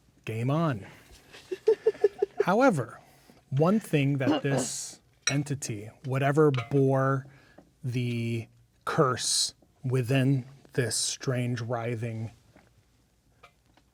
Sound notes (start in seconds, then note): 1.3 laughing